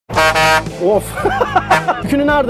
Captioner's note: laughings